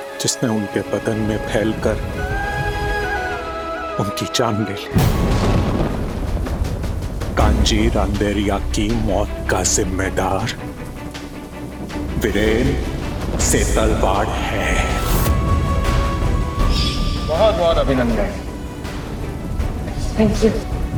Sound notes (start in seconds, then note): 5.0 thunder rumbling; 15.0 dramatic music